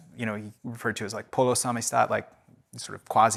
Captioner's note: speaking in foreign language